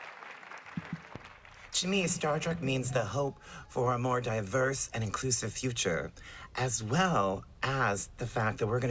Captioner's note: applause